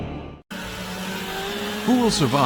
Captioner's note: chainsaw rumbling